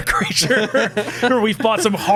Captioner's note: laughing